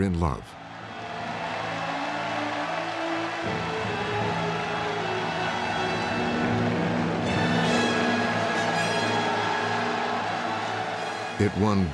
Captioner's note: cheers and applause